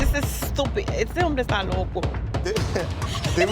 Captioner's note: spanish speech